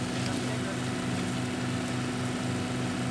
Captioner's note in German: Dröhnen